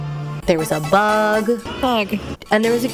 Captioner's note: hoots